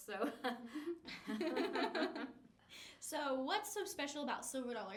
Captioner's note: all laughing; laughs